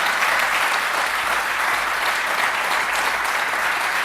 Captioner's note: applause